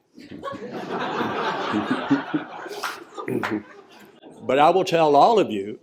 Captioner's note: laughter